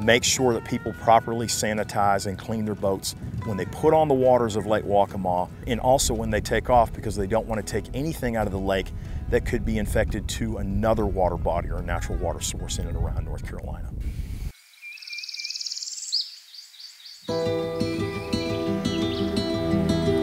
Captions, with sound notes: to make sure that people properly sanitize and clean their boats when they put on the waters of Lake Waccamaw and also when they take off because they don't wanna take anything out of the Lake that could be infected to another water body or a natural water source in and around North Carolina. [birds chirping] [gentle music]